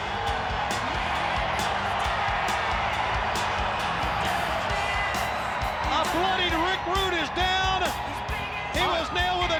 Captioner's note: crowd cheering